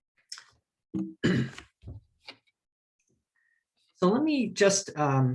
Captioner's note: clears throat